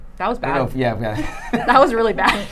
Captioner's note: laughing